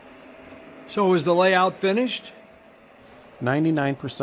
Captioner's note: voiceover